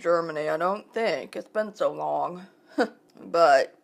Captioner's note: laughing